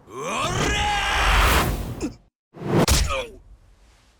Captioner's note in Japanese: うめき声; 叫び声